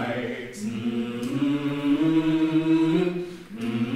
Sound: characters humming

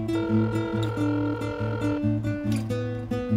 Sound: dial tone

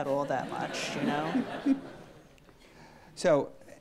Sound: audience laughs

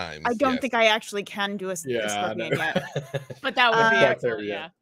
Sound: laughs

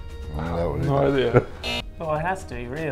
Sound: buzzer

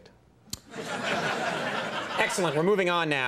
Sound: audience laughs

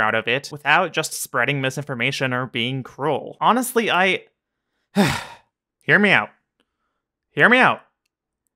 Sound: sigh

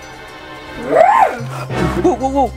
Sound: surprised shrill

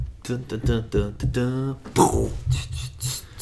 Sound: humming

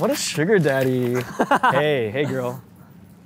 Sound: laughing

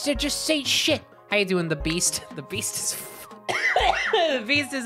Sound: coughing

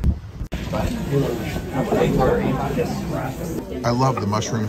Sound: customers chattering

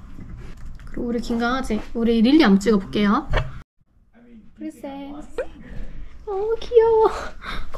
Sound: gasp

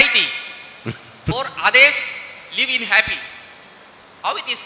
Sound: Sadhguru laughs

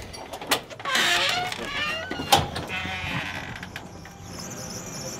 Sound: door opens; door creaks open; car engine humming

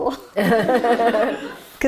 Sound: laughter

